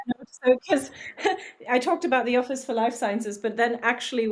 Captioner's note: laughs